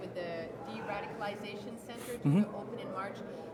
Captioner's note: shouting